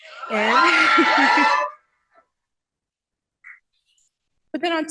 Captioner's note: cheering